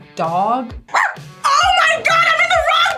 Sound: barks

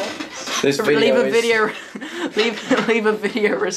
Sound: laughs

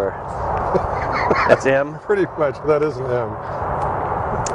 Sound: laughing

